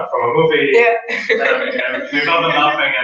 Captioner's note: laugh